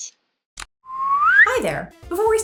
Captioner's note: SFX: Slide whistle